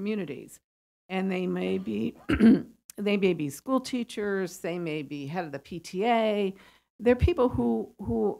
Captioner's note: cough